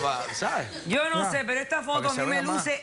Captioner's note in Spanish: risas del publico